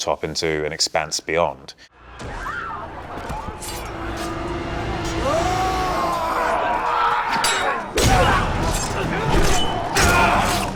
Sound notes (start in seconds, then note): 2.1 villagers screaming; 4.2 dramatic music; 5.2 Theseus roars; 7.1 steel clashing; 7.9 soldier grunts; 7.9 spear piercing; 9.5 steel clashes